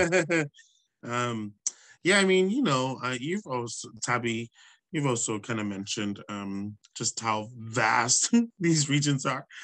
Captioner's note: laughs